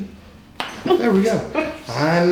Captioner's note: joint popping